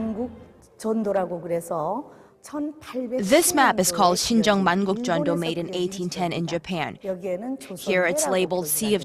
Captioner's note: korean